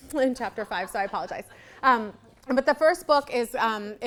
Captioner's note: audience laughing